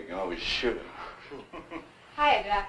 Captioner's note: laughs